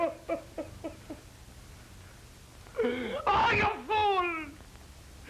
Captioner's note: loud sobbing